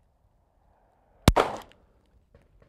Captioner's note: bang